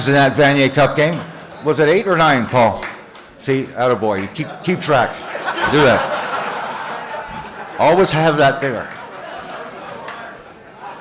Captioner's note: laughter